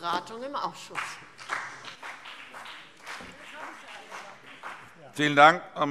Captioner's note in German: Beifall BÜNDNIS 90/DIE GRÜNEN und vereinzelt CDU